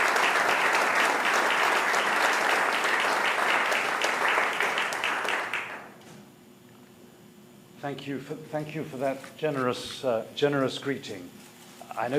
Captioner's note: applause